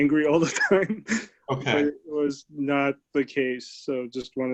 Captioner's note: laughter